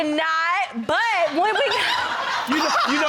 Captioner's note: woman cackling